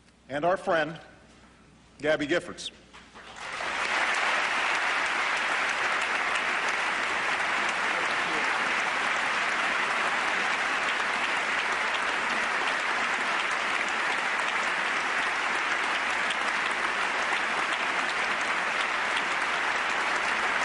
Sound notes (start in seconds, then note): 2.7 applause